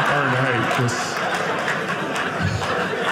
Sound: audience laughing

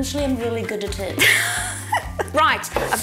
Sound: laughs

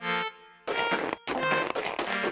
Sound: footsteps

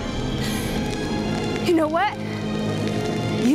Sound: gasps

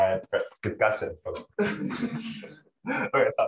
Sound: laughter

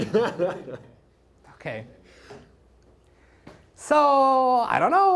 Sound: laughter

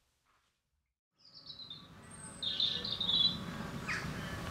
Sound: birdsong

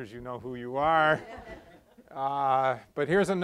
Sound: laughter

